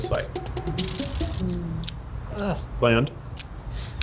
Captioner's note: smacking lips